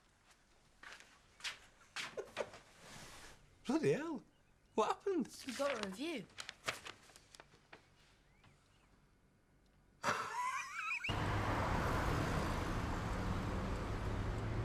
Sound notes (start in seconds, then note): 0.1 Loz chuckles; 10.0 Loz laughs; 11.1 engine rumbling